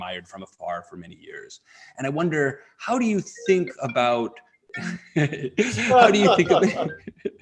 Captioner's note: phone rings, laughter